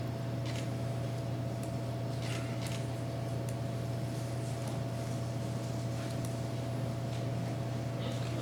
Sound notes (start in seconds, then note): 2.3 camera shutter clicking